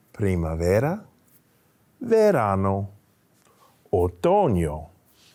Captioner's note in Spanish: hablando en español